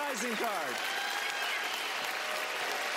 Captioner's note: applause